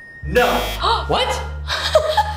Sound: buzzer rings; gasps; laughs

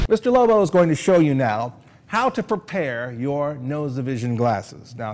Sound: none

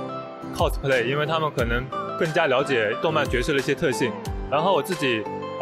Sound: in mandarin

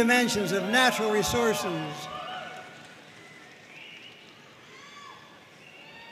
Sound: audience cheering and applauding

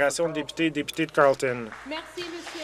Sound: some Applause

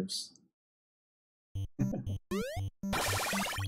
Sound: chuckles

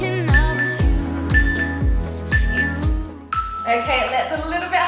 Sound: beeping sound

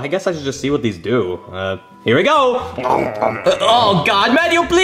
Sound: chewing

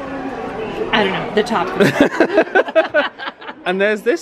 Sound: laughing

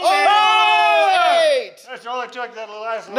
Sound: yelling excitedly

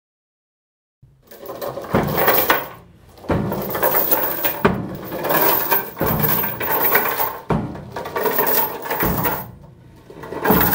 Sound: sound of chain

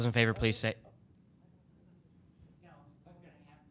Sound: speaking softly

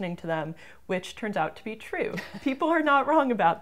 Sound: laughs

